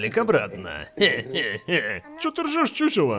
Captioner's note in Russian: хе-хеххе